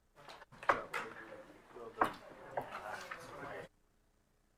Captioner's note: group chattering